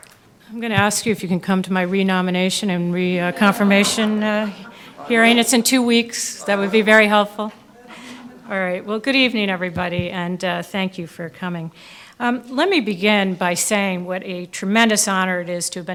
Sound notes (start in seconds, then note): 2.9 audience laughing